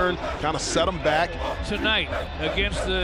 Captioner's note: players chanting